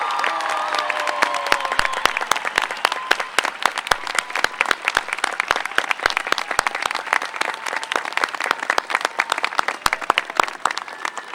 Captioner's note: applause